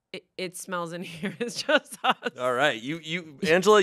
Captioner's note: laughs